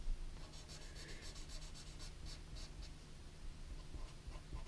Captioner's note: pen scratching